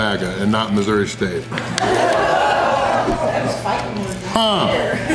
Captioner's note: laughter